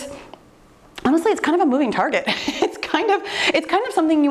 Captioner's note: laughing